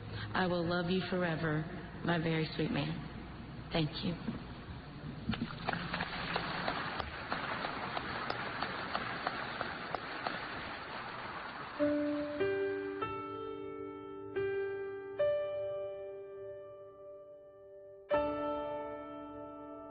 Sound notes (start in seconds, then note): 11.9 applause